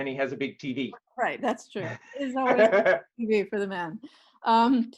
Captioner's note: laughs